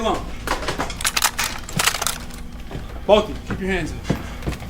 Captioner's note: gun cocking